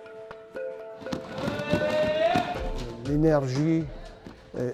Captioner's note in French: cri d'encouragement